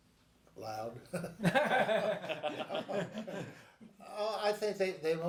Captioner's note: laugh